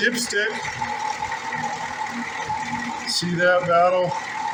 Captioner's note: engine idling